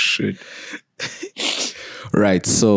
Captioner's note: laughing